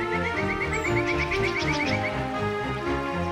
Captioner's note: bird chirping